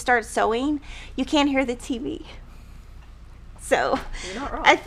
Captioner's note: laughing